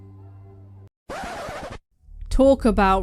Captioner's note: record scratch